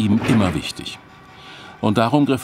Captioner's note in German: Maschinengeräusche